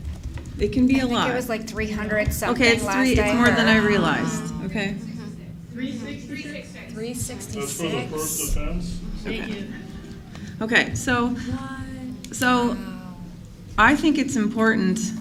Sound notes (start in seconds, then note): 4.8 murmuring